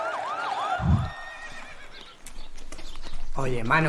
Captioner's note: sirens and shouting; neighing